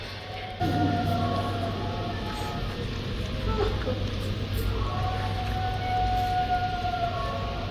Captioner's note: eerie howling continues